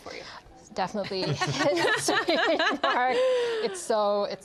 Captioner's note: all laugh